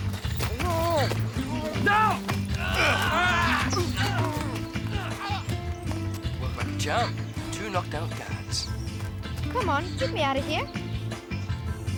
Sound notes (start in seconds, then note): 2.5 groaning